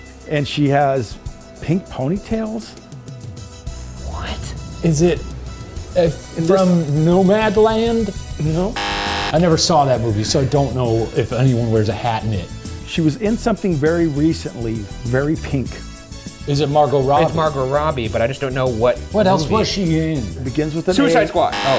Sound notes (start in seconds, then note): 8.7 buzzer blaring; 16.4 game show music continues